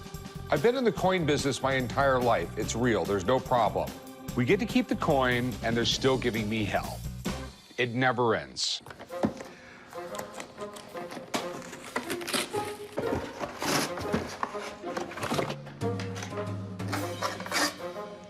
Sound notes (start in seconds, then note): 10.0 crinkling and rustling